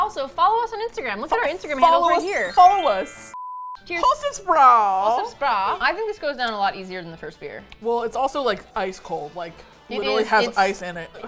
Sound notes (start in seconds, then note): 3.9 with German accent